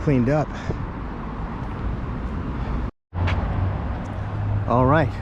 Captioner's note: street noise